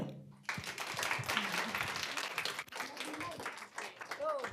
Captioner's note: applause